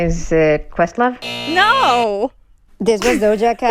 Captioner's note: soundbite of buzzer; laughter